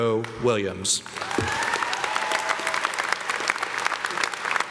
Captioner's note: everyone clapping